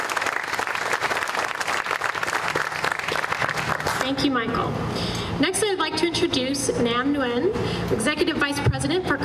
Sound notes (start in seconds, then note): 3.5 applause